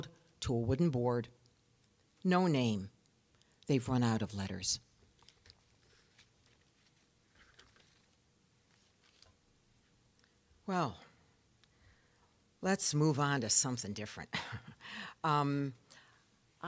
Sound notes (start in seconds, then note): 14.8 chuckling